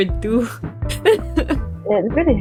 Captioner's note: laughs